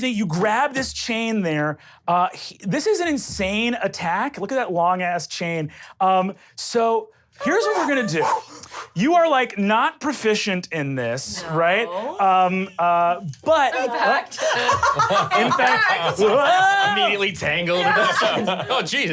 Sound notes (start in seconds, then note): 14.3 laughs